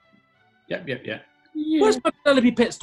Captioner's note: high pitched